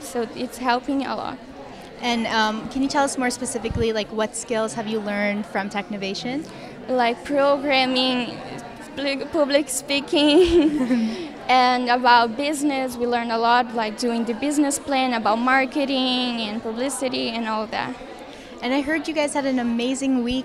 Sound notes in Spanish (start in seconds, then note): 10.2 risas